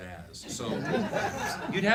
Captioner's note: laughing